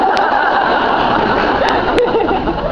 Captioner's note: laughs